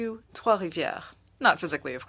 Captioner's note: speaking French